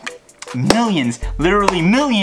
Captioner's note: clap